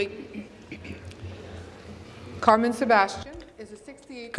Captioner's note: speaking in French